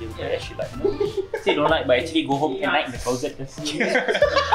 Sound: cheer

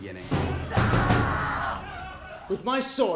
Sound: screaming

